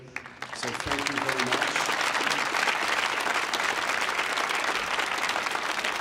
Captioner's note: audience applauding